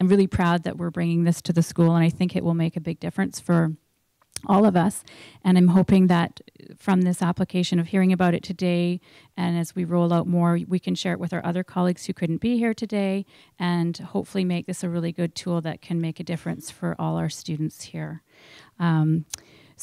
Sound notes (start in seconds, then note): none